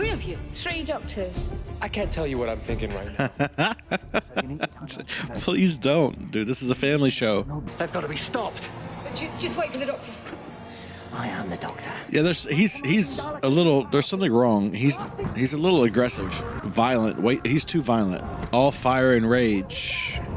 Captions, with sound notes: [laughing] Please don't, dude. This is a family show. Yeah, there's- He's- he's a little... There's something wrong. He's- he's a little aggressive. Violent. He's too violent. All fire and rage.